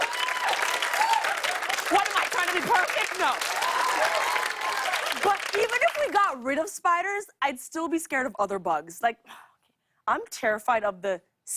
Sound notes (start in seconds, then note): 0.0 laughter and applause; 2.6 cheers and applause